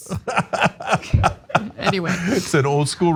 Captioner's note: laugh